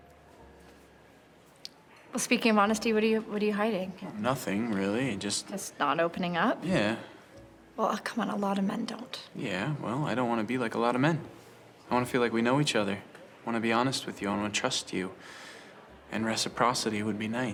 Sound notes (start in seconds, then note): none